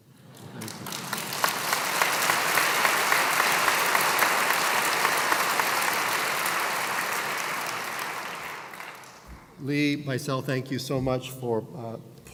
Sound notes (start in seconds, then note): 0.2 applause